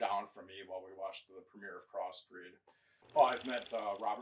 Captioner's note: film reel clicking